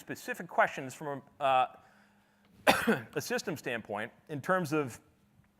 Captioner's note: coughs